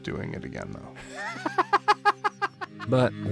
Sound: all laughing

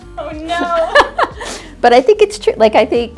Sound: laughs

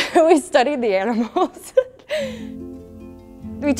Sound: laughter

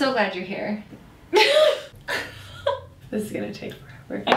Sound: laughs

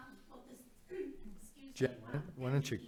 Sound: faintly speaking

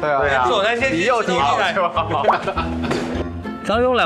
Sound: laughing

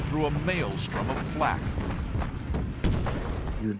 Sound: explosions

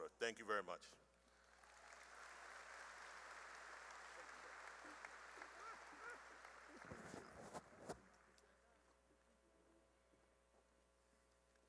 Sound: cheering and applause

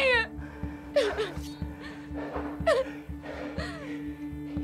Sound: sobs

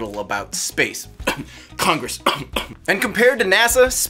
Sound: cough

